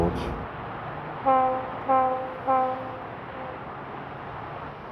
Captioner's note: horn